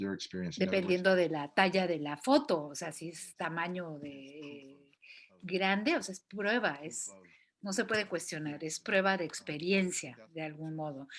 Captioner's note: non-english speech